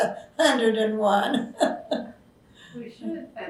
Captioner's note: laughs